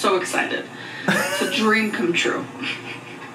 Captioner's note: laughs